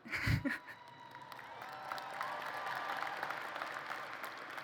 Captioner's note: applause